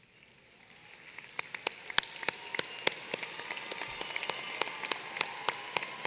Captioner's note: applause